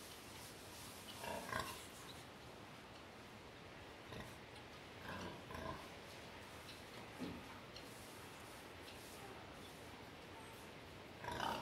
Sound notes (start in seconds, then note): 1.2 grunting hogs?